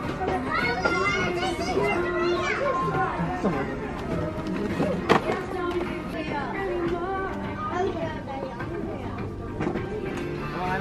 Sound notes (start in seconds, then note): 0.2 children shout loudly